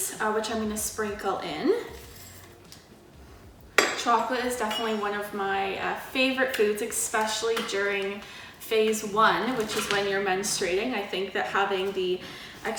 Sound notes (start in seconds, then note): 3.5 measuring spoon taps